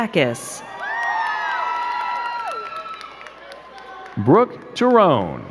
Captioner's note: crowd cheering and clapping